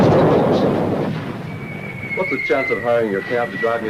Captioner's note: missiles whistling